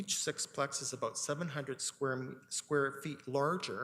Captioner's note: none